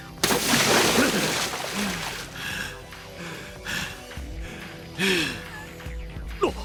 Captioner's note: huff